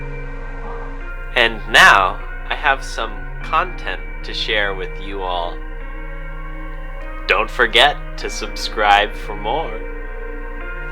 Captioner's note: monotonous voice